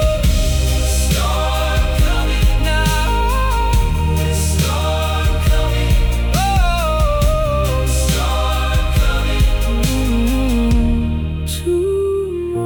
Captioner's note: storm coming